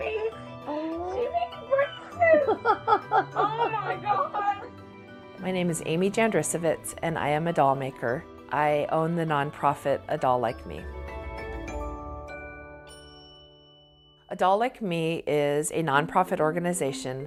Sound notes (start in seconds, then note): 1.8 onlooker joyfully chuckles